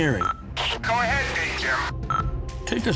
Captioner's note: Engineer Joe on loudspeaker